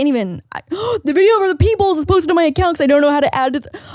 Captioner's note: gasps